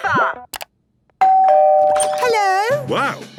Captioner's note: doorbell ringing